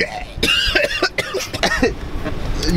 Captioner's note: insane coughing